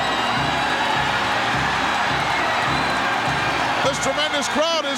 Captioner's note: audience cheering